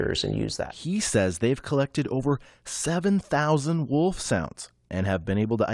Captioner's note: voice-over